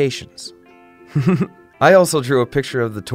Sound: laughs

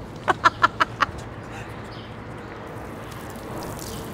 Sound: laughs

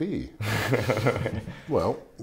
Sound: laughing

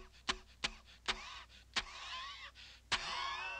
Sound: engine wheezing

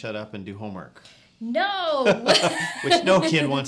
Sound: pleasant laughing

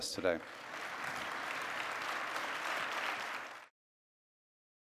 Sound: audience applause

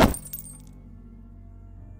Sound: gunshot; glass shatters; body slumps to the ground

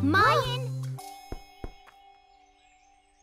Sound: knock at door

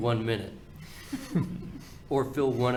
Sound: everyone chuckling

